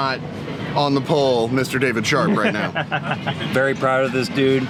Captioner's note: laughs